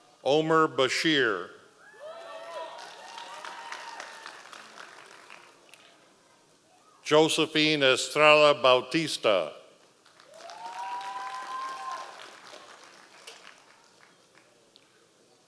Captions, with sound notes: Omar Bashir. (audience applause) Josefina Strela Bautista. (audience applause)